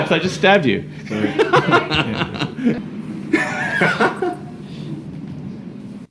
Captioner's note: maniacal laughter